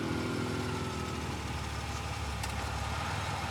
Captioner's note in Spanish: Ruido del auto